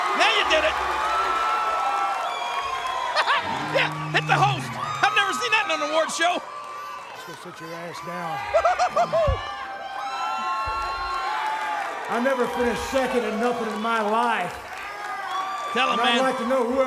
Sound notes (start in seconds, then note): 0.3 audience applauds and cheers; 3.2 chuckles; 8.4 King laughs; 10.5 audience applauds and cheers